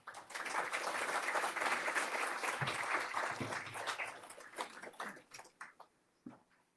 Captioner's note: applause